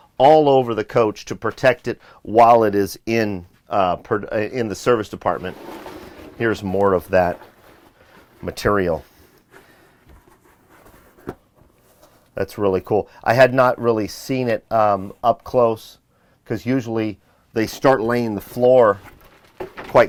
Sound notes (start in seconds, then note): 3.7 stutters; 5.7 floor material thuds; 10.5 material thuds